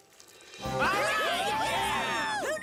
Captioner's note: villains Cheering